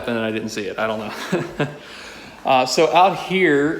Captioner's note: laughing